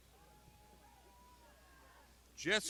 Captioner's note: crowd shouting